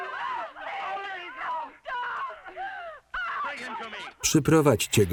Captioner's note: yelling and crying